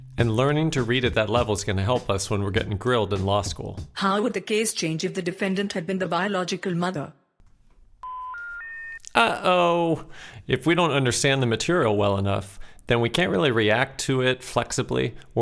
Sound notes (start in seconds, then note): 8.0 dial tone ringing